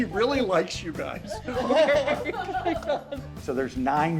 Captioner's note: staff laughing